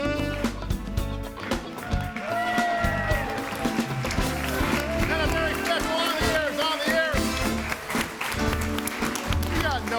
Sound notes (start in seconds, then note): 3.9 audience cheering and applauding; 7.9 audience applauding; 7.9 lively music